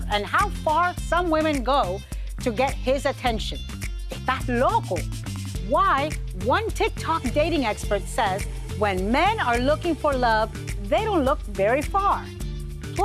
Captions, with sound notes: and how far some women go to get his attention. (speaking in foreign language) Why one TikTok dating expert says, when men are looking for love, they don't look very far.